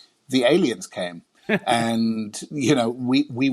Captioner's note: laughing